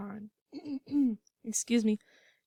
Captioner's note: cough